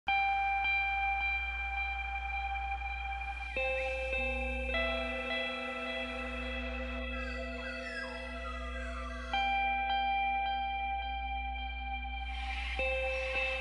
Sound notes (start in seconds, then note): 0.4 gentle music; 6.8 birds calling